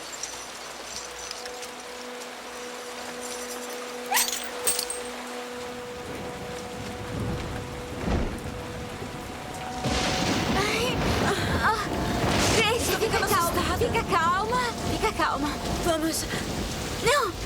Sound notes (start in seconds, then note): 7.7 thunder